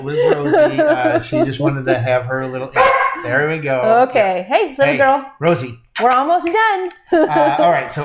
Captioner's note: bark